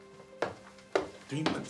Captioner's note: footsteps plodding